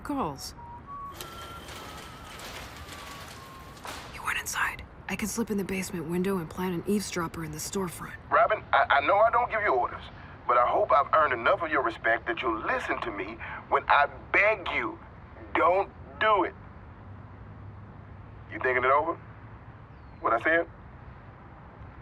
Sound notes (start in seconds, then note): 0.5 whistling; 0.9 rolling door clanking; 3.5 whispers